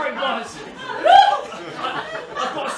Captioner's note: mrs hardcastle wails